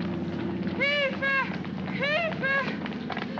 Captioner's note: aircraft rumbles overhead; woman shouting in German; running footsteps